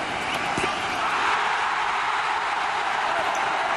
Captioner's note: crowd roars